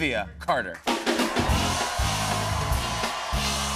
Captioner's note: cheers and applause